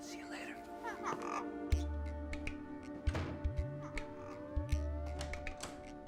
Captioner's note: bird noises